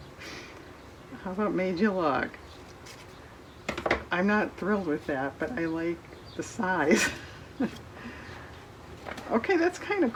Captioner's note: laughs